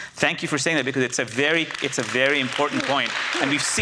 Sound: audience applauds

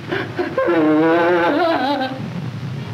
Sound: whimpering

